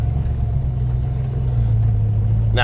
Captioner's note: engine